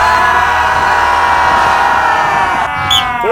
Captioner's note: shouting for motivation